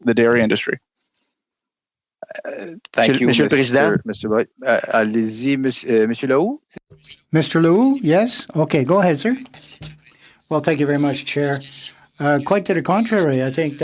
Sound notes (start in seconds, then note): 9.0 speaking French